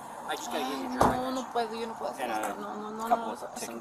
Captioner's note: suspect speaking in foreign language